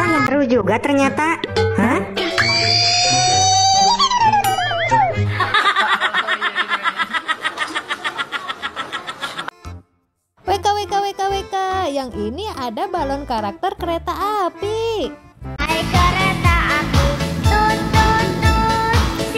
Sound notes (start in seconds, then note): 5.2 laughs